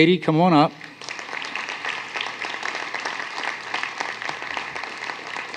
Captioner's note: applause